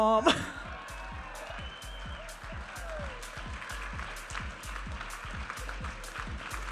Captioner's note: audience applauding and cheering